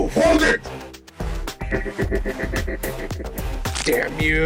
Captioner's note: one of the Robots chuckle at him